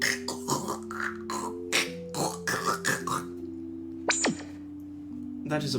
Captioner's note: Guard speaking Trandoshan language; translator Machine Sound